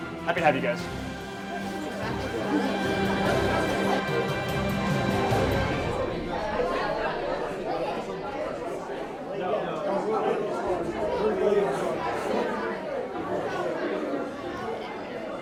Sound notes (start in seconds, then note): 4.0 students talking